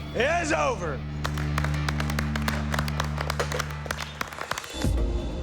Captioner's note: applause